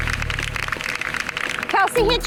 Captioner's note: group clapping